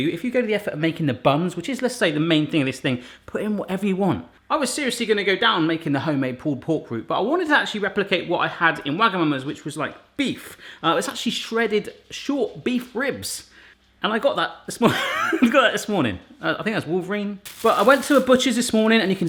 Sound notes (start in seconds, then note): 14.6 laughing